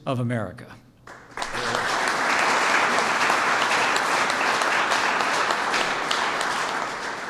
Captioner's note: applause